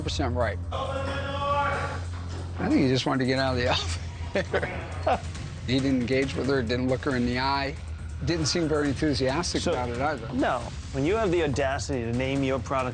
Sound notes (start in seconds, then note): 3.7 laughs